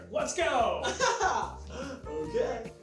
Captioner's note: laughs